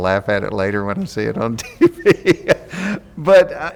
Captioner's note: laughs